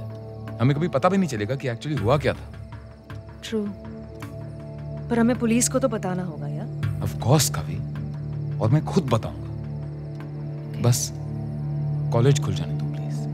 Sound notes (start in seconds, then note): none